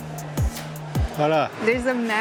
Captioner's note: in Portuguese